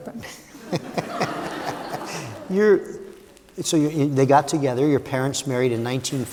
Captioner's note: laughter